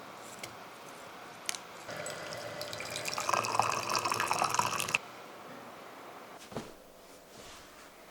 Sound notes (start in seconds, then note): 1.9 water pouring